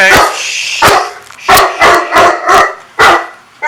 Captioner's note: dog continues barking